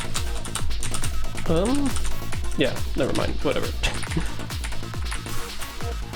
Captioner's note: chuckle